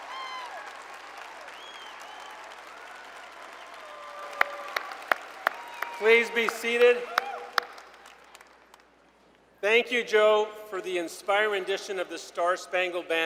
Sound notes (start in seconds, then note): 3.8 applause